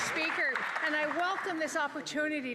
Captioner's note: some Applause